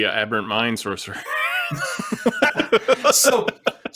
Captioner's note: laughter